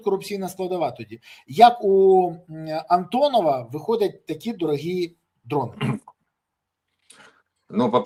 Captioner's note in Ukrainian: прочищення горла